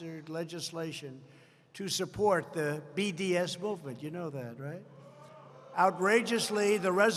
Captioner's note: applause